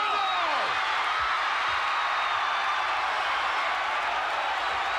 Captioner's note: audience cheers